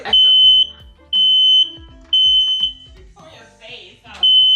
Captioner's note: smoke alarm beeps